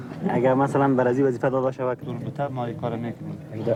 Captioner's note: translator speaking in a foreign language